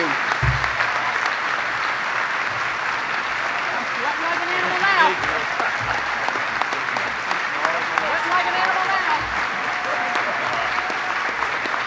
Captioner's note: clapping